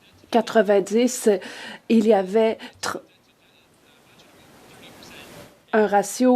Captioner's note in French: voix de l'interprète